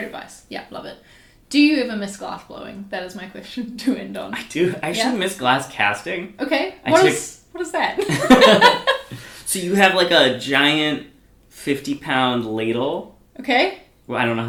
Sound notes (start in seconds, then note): 8.0 both laugh